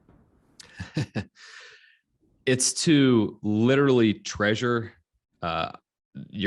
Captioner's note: laughs